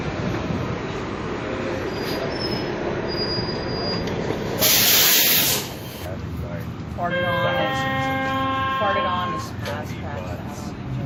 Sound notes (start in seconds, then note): 7.2 99 B-Line Chime